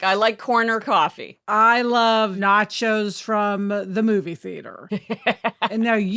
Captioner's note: laughing